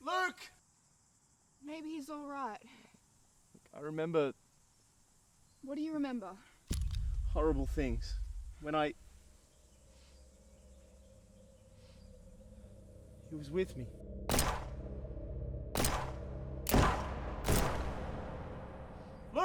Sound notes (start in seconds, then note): 6.7 gun cocking; 6.7 tense music; 9.9 eerie music; 14.4 eerie music; 14.4 shots firing